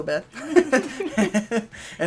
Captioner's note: laughter